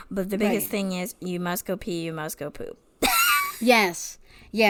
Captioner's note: laughs